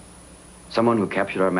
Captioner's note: none